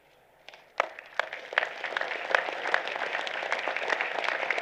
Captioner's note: applause